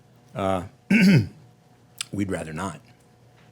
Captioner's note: clearing throat